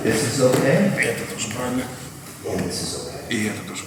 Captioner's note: speaking in a foreign language